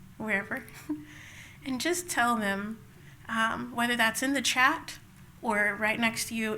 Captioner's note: laughs